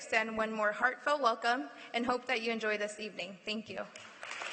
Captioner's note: applause